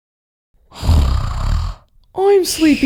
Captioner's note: snoring!